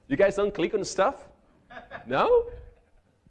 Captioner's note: man chuckling